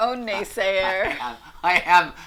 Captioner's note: both laugh